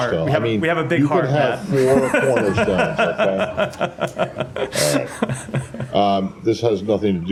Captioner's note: laughter